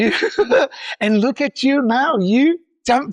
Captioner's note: laughs